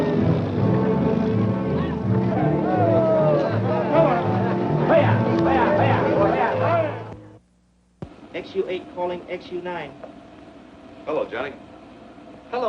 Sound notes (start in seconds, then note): 2.4 excited chattering